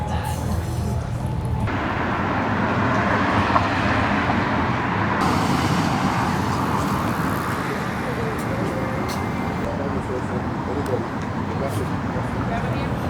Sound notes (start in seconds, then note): 2.1 city noise